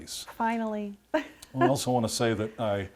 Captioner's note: laughs